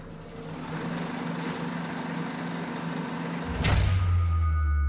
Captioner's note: tense ominous music; projector whirring; tense ominous music